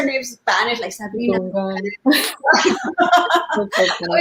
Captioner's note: spanish inflection; laughing in unison